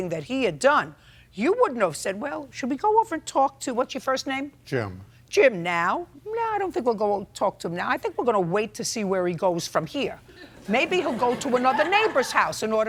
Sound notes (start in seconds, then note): 10.5 audience laughs